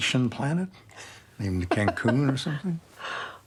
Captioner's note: Grace laughs